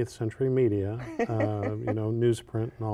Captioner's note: laughter